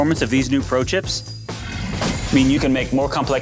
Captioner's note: growling